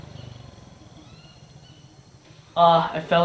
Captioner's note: birds chirping